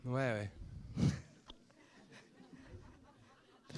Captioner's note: laughts